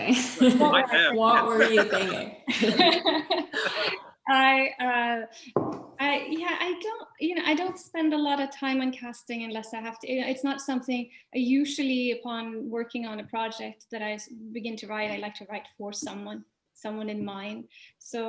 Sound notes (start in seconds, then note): 0.0 laughing and voices muffling; 2.6 laughing